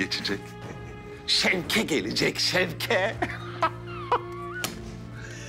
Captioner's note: laughter